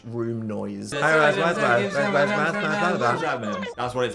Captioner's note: all chattering